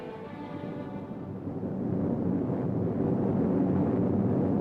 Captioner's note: plane engine roaring